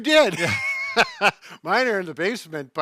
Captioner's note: laughs